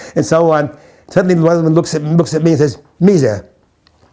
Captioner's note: in Hebrew